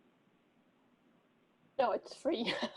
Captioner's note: laughter